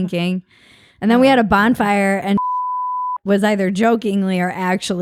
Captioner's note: beep